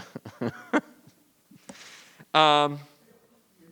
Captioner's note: laughing